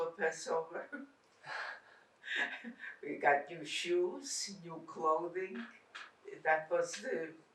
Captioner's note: laughing